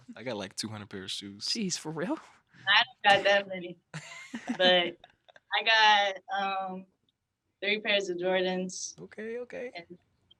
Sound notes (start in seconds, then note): 4.3 chuckles